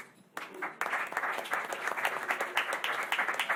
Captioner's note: applause